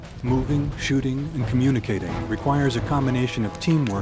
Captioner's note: voiceover